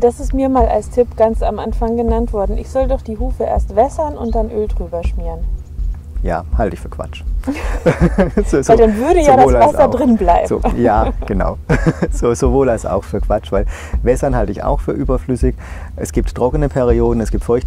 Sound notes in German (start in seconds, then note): 7.4 lacht